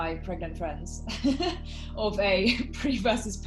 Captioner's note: laughing